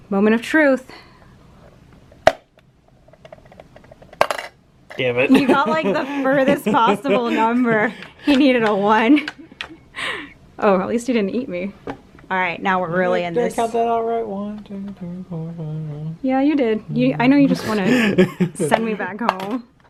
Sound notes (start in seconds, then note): 2.1 popping